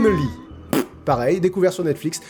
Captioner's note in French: bruit de pet